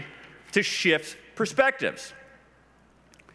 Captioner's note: none